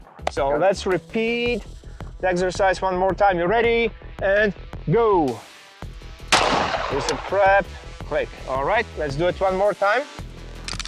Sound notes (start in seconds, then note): 6.3 gun shoots; 10.6 gun cocking